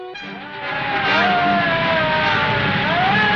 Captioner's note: sirens